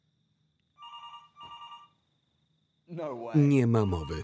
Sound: phone ringing; phone ringing

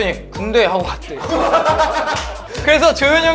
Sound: ahahahaha

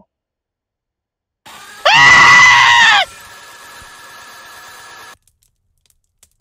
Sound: Sonic.EXE scream; broken glass sounds

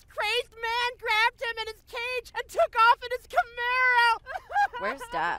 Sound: weeps

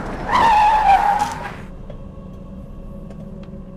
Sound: tires screech; haunting music

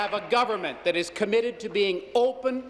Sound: applause

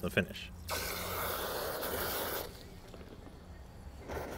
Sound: hose spraying

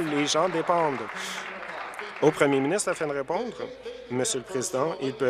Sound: applause

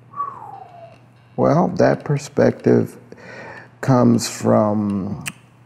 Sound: whistles

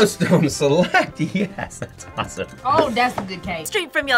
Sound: laughs

